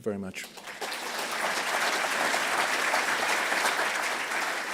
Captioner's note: audience applauds